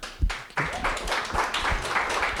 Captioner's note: applause